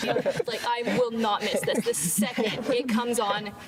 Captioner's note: group laughing